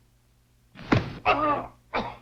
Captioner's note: foot stamping